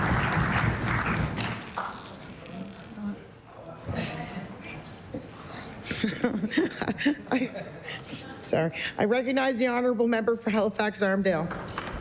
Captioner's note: applause